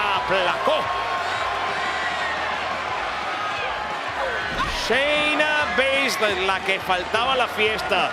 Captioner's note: applause